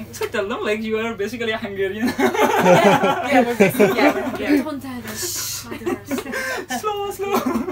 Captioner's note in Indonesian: Tertawa